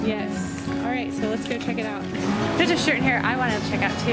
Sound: voiceover

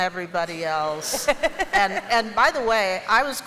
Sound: laughter

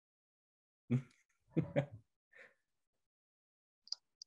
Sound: laughs

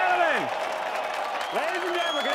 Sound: applause

